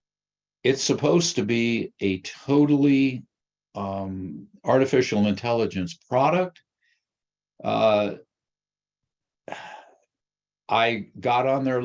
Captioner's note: sighs